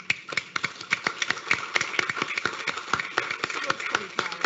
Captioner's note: audience applauding